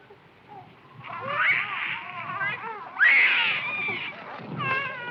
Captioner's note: children crying